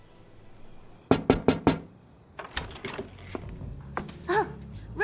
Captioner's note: Kent knocking; Trixie scoffing